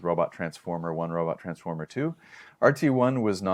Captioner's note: inhales